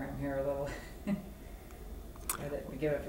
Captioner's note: laughter